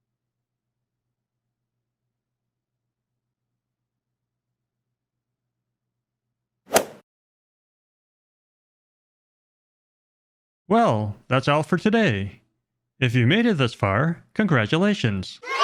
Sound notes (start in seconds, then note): 6.6 golf swing sound effect